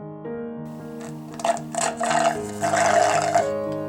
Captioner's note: slurping the remains of the green smoothie